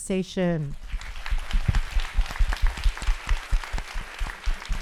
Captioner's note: audience applauding